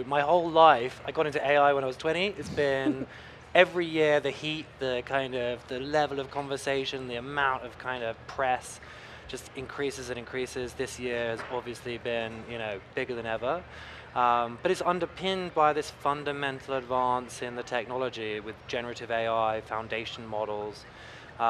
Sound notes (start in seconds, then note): 2.4 chuckling